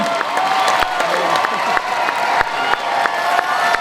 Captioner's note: cheering